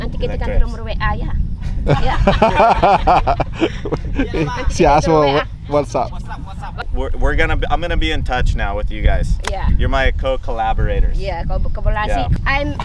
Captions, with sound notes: What's your what's app? (crew laughs) She asked for your whats app? I'm gonna be in touch now with you guys yeah you're my co-collaborators yeah